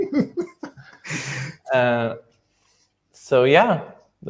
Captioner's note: laughing